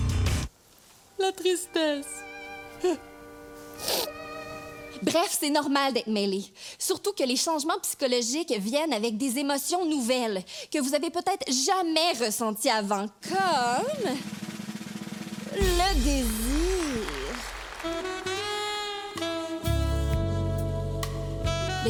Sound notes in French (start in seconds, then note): 1.5 musique mélancolique; 2.5 sanglots; 15.7 applaudissements; 17.8 musique sensuelle